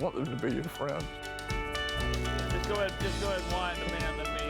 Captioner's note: chuckling